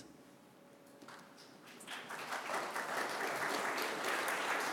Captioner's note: applause